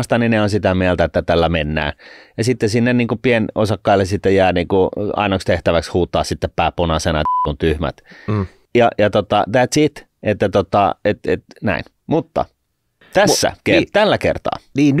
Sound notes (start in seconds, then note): 7.2 peep